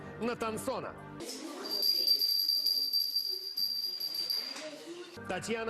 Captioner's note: bell sound